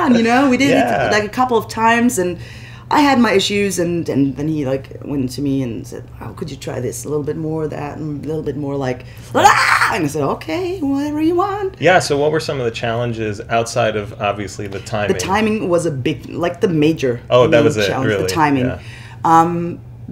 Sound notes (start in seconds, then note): 9.4 screams